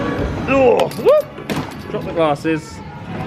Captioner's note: glasses dropping